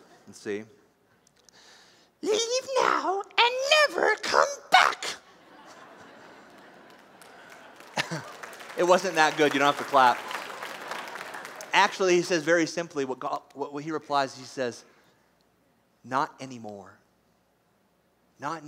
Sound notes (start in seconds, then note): 1.7 imitating smeagol; 5.3 laughter; 6.5 applause